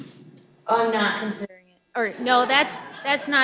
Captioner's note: audience laughing